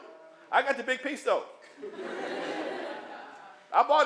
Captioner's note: laughter